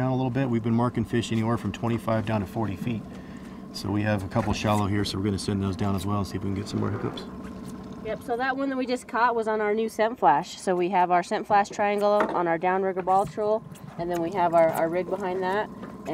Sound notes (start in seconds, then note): 9.0 boat engine idling